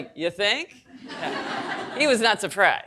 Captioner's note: audience laughing